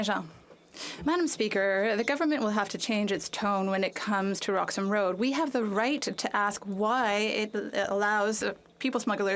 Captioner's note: speaking French